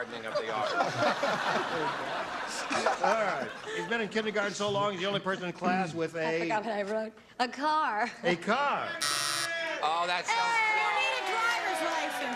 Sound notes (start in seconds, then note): 2.7 laughter; 9.0 wrong buzzer